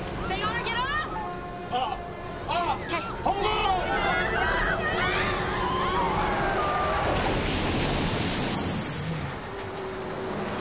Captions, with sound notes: Stay on or get off? - Off. Off! - Okay. - Hold on! (screaming) (water splashing)